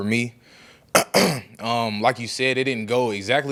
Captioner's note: clears throat